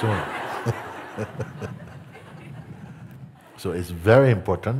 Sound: laughter

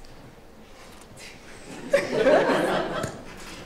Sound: laughter

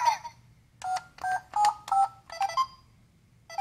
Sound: beeping

